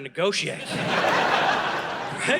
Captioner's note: audience laughing